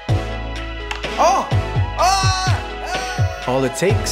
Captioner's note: happy noises